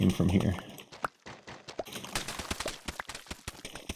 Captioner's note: pops